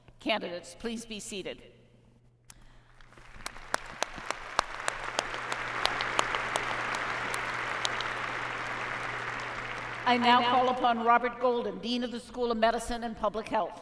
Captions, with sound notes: Candidates please be seated. [ Applause ] I now call upon Robert Golden, Dean of the School of Medicine and Public Health.